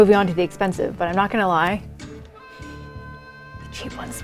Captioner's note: sniffs